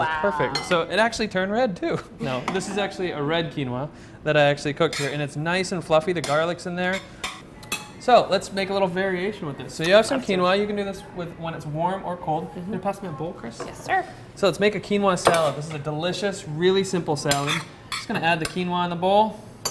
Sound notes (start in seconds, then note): 2.2 laughs